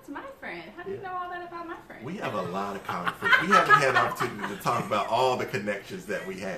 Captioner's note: laughter